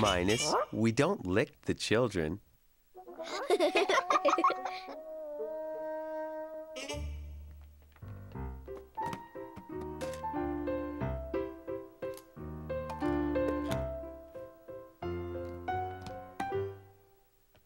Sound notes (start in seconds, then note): 5.6 giggles